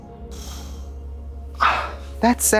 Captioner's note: Katya sighs